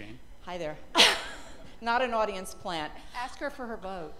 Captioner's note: laughter